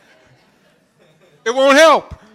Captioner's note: laughter